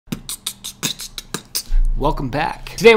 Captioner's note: beat-boxing